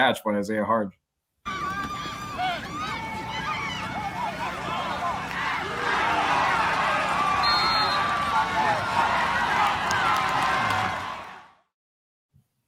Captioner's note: applause